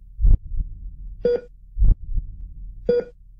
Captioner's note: machine beep